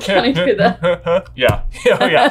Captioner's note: laughing; grunting repeatedly